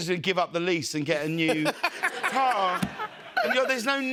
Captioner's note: laughter